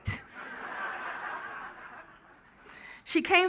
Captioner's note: laughing